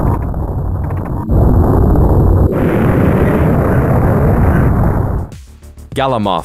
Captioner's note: explosion